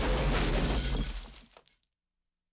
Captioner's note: glass shattering